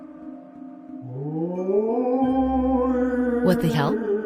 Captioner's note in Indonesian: suara hantu